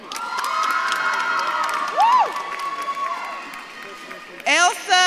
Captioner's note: audience claps and cheers